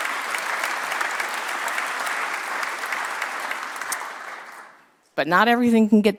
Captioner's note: applause